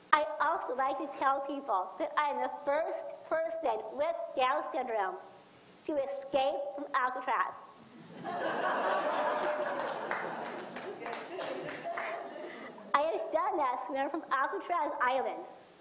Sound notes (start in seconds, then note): 8.1 audience laughs and applauds